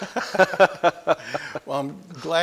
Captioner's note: laughter